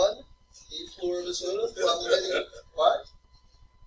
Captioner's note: student laughter